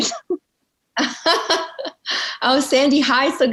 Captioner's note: laughing